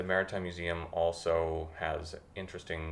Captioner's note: none